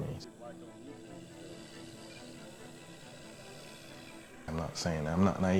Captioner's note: faint male voice; whirring